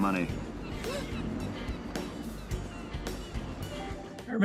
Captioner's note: kid gasps